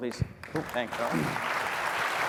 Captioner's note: applause